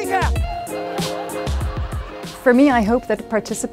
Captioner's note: laughter